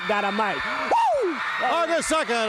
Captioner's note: crowd cheering